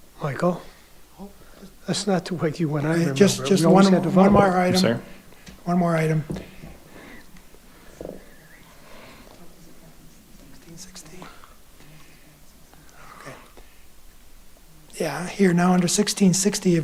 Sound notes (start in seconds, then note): 8.3 faintly speaking